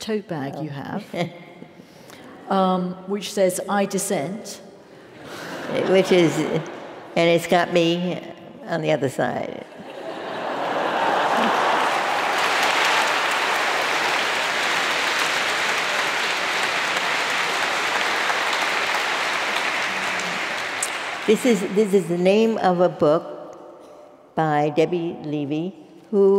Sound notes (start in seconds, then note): 1.2 laugh; 7.6 laugh; 13.3 laugh; 14.1 applause